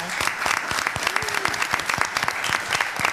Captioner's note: applause